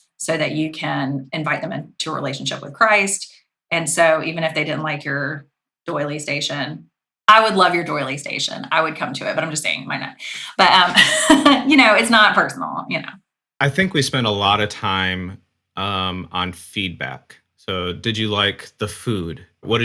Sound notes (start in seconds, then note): 11.0 laughing